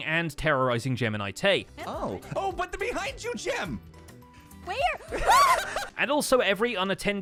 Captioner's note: shrieks